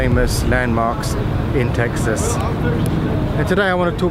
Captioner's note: people chattering